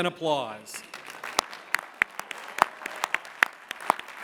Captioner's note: applause